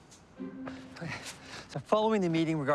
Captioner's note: panting